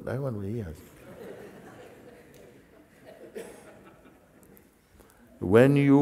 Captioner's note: laughter